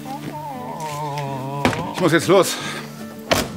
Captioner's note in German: Leises Winseln